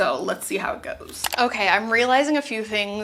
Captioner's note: mouse clicking